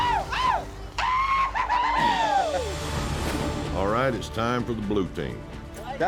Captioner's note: cheering